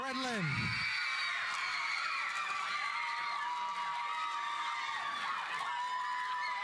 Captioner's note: audience cheering; audience applauding